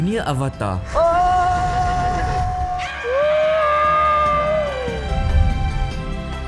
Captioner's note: scream